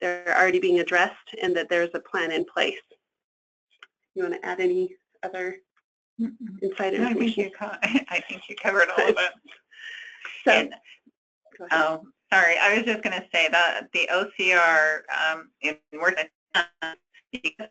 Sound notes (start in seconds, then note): 17.4 static